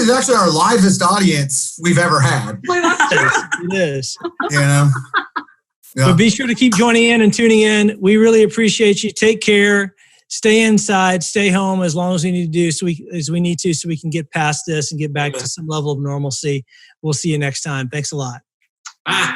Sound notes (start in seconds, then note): 2.1 all laughing